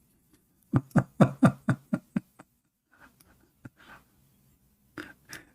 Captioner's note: Ketawa